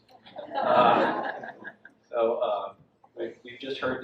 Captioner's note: audience laughs